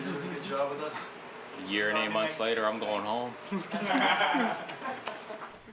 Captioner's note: laughter